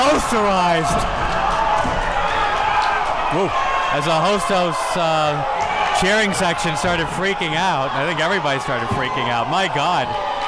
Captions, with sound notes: Posterized. (crowd goes wild) As the Hostos cheering section started freaking out. I think everybody started freaking out, my God.